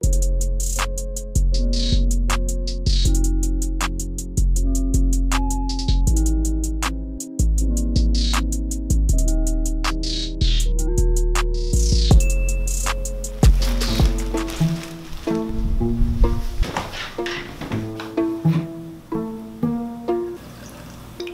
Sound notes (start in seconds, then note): 12.2 ding; 20.5 slurping